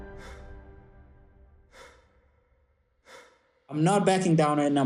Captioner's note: deep breaths